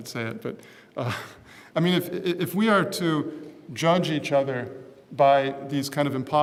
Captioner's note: laugh